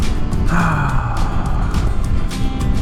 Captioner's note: heavy sigh